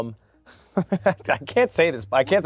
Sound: laughs

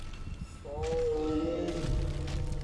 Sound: guttural moan

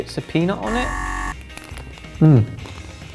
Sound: incorrect answer buzzes

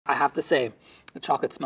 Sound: sniffs

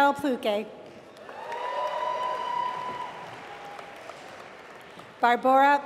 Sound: applause

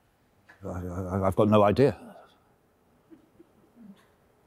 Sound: stammering

